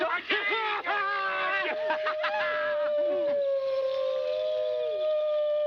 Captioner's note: laughter